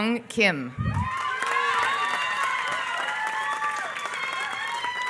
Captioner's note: applause